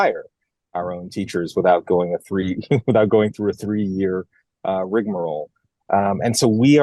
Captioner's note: laugh